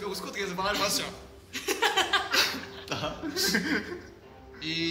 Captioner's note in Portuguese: risos